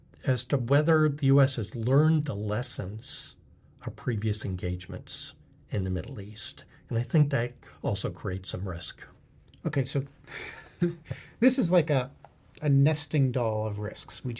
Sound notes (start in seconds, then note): 10.3 laughs